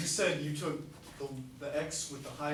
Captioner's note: voiceover